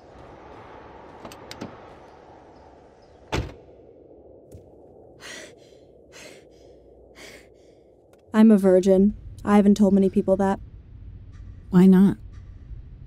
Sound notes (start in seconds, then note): 3.3 car door slams; 5.2 hyperventilating